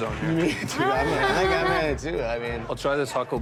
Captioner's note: laughs